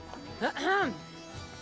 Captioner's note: clears throat